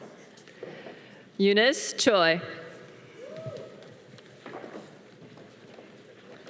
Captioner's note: audience cheering